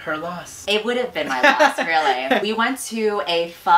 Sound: laughs

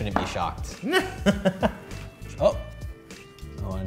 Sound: laughter

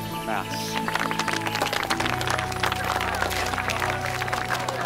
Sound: clapping

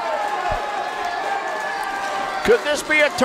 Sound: crowd cheering

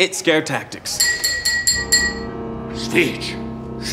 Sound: glass tinkling

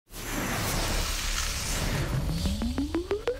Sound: electronic tone swooshing; upbeat music

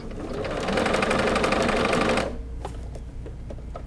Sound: machine humming

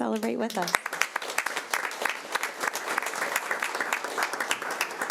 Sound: audience applauding

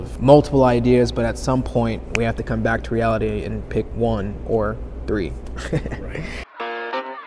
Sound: laughter

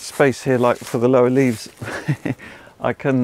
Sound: chuckles

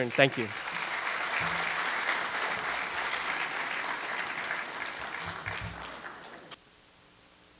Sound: applause

